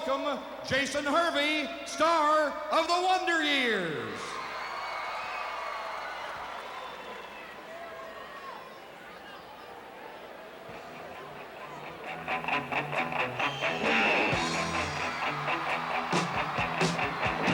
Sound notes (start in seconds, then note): 4.0 crowd cheering